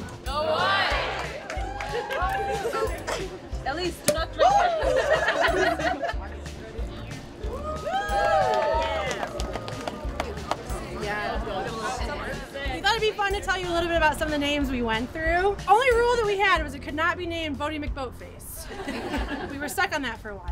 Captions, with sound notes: So go green. (crowd cheer) - Elise, do not drink. (laughter) (cheering) - We thought it'd be fun to tell you a little bit about some of the names we went through. Only rule that we had was it could not be named Boaty McBoatface. We were stuck on that for a while.